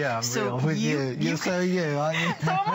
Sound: laughter

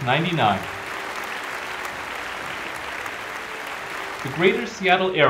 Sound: applause

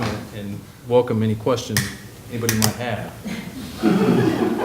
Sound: laughter

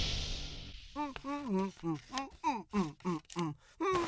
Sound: casual humming

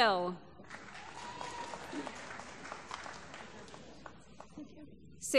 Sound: applause

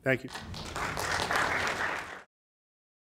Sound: applause

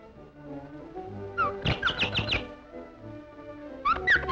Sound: birds chirp

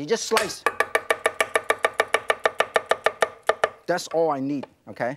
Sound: knife chops

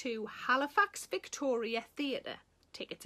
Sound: none

